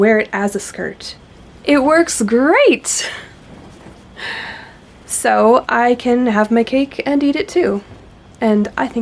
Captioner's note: laughs